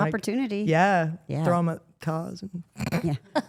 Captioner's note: laughs